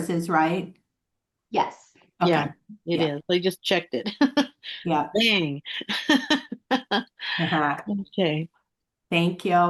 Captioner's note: laughing